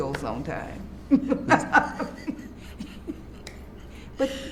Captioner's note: laughs